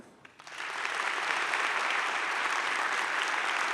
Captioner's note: audience claps